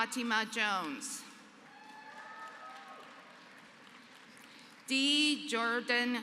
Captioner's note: applause